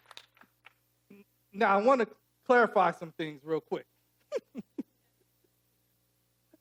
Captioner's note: laughs